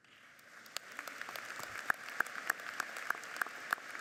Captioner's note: audience applauds